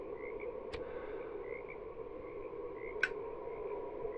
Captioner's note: flame strikes, lighter clicks